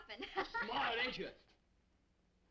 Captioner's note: Meagan laughing